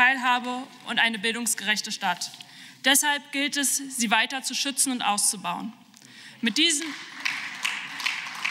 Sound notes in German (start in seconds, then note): 6.4 Beifall